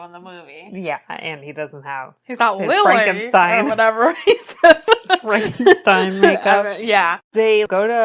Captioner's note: laughs